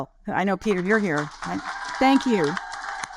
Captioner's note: audience applaud